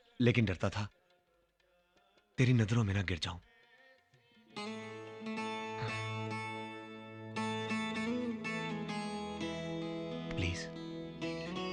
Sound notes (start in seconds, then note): none